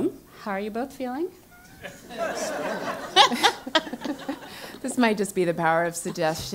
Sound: laugh

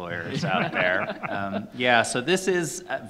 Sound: panelists laughing

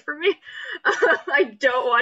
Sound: laughs

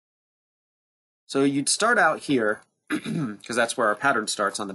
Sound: clears throat

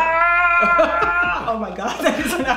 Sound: screaming

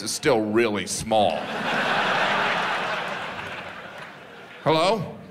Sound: audience laughs

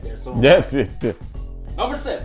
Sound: laughs

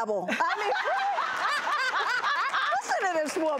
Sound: laughing

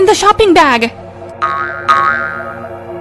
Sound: boing boing; background music

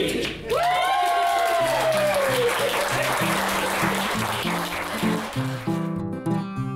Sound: cheering and applauding; bright guitar music

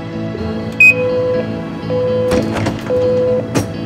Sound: sound of vehicle door opening

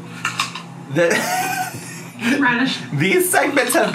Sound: laughs

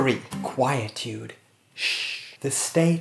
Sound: shhhhh

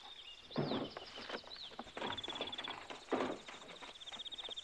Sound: debris clattering

